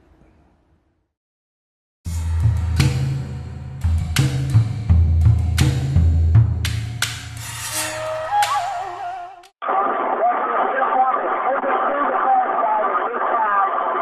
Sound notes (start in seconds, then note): 0.1 upbeat music; 7.8 soldiers speaking over the radio call